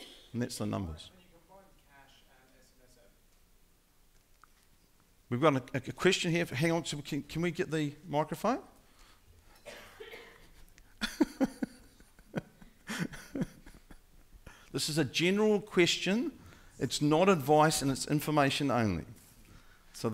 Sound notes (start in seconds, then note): 10.9 laughing